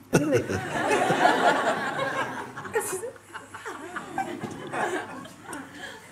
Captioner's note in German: Lachen